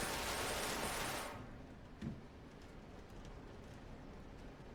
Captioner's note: rain storm